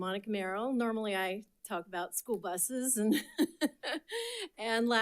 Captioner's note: laughs